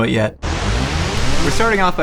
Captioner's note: whoosh